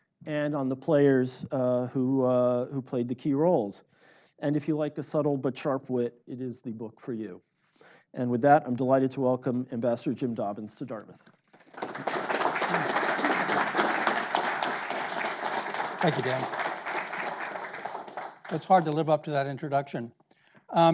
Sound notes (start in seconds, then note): 11.5 audience clapping